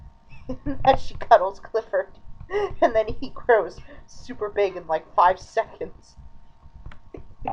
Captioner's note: laughing